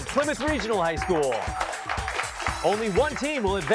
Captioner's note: applause